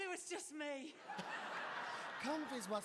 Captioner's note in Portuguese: audience laughing